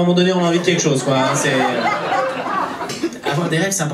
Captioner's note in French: rires public